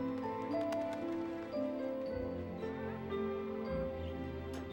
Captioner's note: wings fluttering